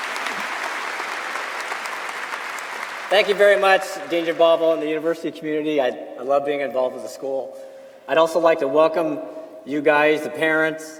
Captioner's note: applause